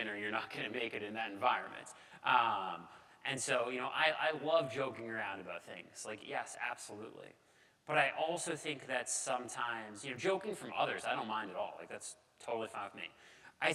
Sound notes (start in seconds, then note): none